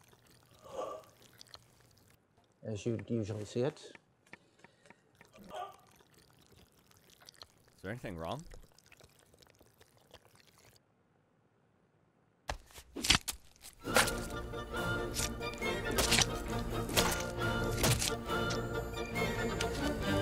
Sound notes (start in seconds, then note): 0.1 moaning; 13.9 fleshy thunks; 14.6 lively instrumental music